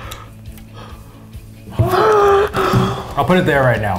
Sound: gasps

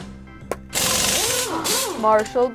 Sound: tools working

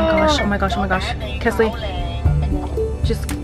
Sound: groans; phone rings; ringtone

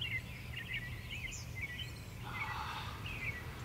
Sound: birds chirping

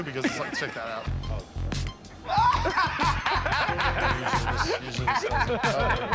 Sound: both laugh

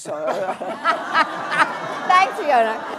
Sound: audience and panel laughing

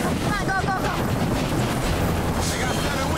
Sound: helicopter rotors thumping

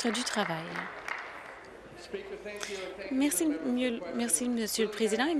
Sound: applause

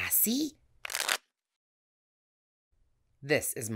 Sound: cards shuffling

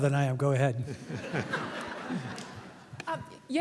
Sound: laughter

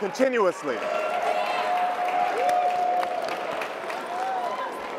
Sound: audience cheering

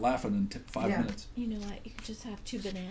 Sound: voiceover

